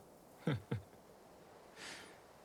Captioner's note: laughs